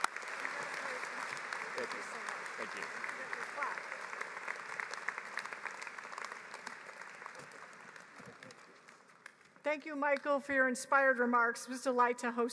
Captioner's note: applause